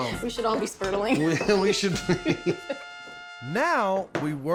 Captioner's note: both laughing